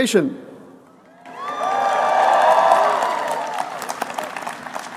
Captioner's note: applause